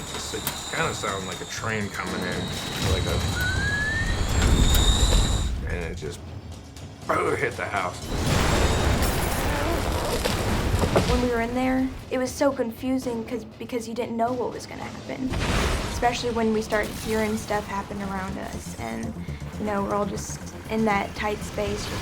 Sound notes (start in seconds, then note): 6.5 whistles